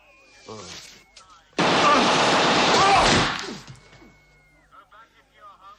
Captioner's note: machine gun salvo